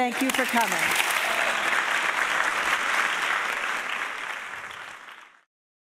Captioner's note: audience applauding